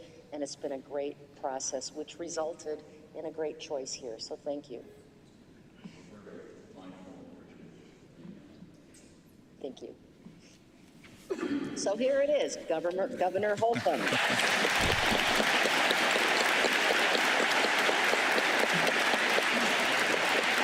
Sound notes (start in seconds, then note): 8.4 off microphone; 13.8 applause